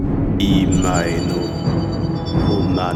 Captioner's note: speaks in Elvish